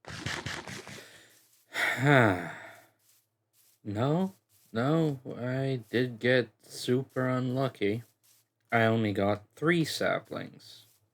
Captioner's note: sigh